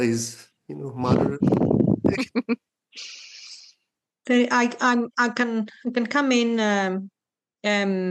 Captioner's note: laughs